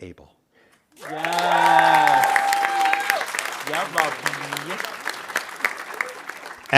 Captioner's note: audience cheering and applauding